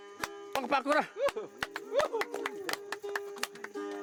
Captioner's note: applauds